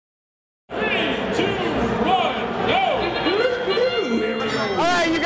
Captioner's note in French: son de corne